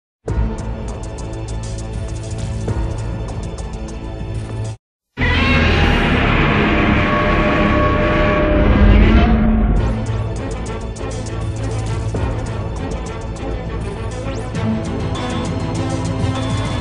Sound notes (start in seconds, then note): 0.0 upbeat music plays; 5.2 Millennium Godzilla roars; 9.9 upbeat music continues